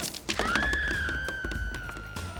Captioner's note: woman screaming